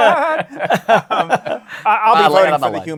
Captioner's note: laughter